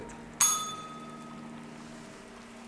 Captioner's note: bell rings